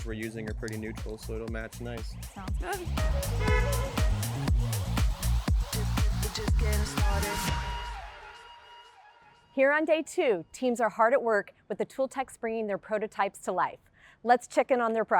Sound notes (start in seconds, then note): 3.0 horn honking; 5.4 upbeat music continues